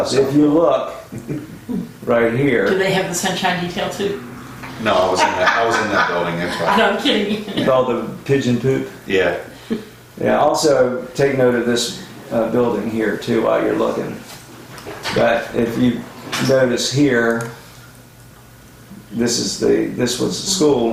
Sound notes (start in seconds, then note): 5.0 woman laughs